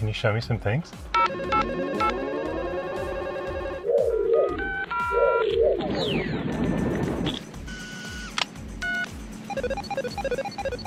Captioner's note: controls Beep